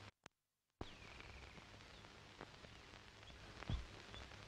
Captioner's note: birds chirping